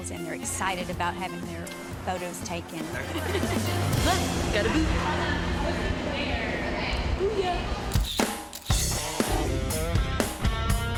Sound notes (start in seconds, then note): 3.0 laughing; 4.3 upbeat music; 8.0 upbeat music